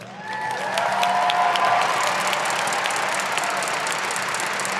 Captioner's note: audience applauding